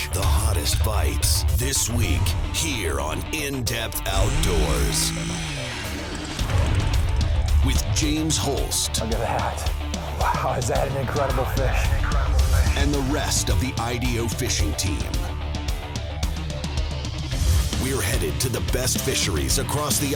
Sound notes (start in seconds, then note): 0.0 voiceover; 4.0 motor revving; 9.4 voiceover; 13.4 voiceover; 15.6 intense rock music